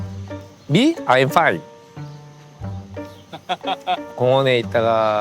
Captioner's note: talking to himself in English